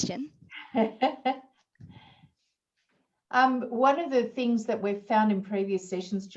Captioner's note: laughs